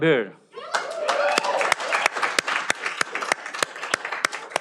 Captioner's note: cheering